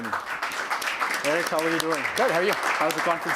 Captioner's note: applause